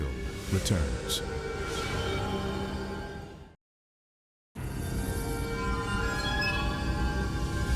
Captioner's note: graphics whooshing; mysterious music